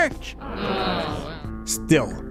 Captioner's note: groans